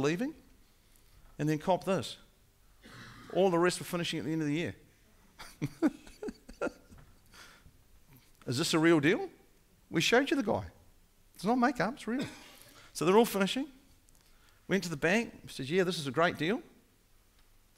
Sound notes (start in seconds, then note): 5.4 laughing